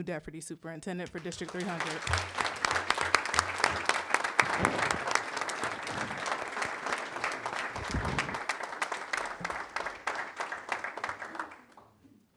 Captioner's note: applause